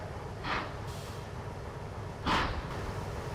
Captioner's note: none